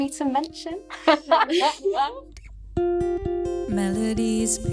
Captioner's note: all laugh